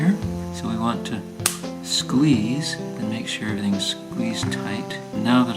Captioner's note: snap